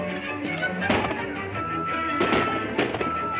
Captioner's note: upbeat music; gunshots